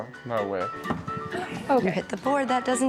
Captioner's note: gasps